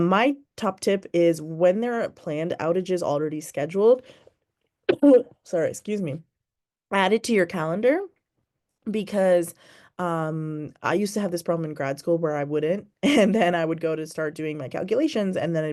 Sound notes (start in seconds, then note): 4.9 coughs